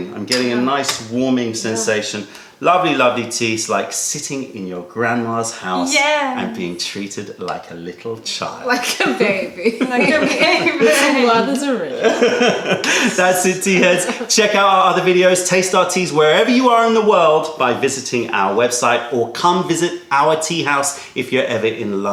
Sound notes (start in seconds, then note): 8.7 laughter